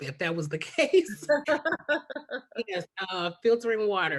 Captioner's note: laughs